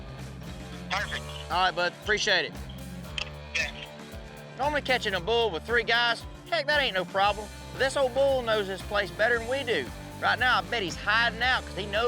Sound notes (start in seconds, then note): none